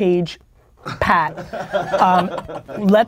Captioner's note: group laughter